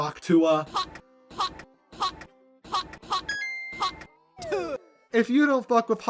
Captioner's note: hawk tuah sound